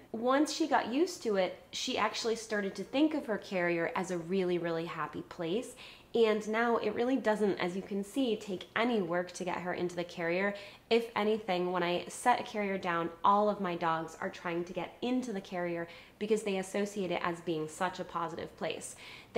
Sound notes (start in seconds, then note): none